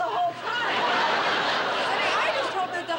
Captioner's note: laughter